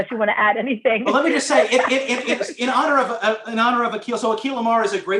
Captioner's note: laughter